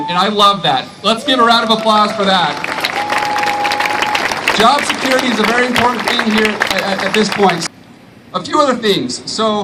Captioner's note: applause